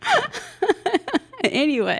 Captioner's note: laughs